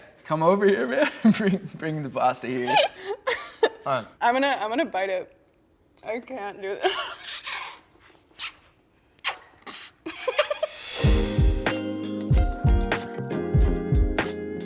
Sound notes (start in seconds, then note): 2.6 laughs; 7.2 laughs; 10.8 soft music plays